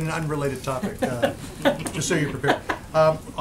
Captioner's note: laughter